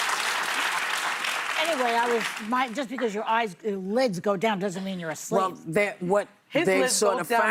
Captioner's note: laughter and applause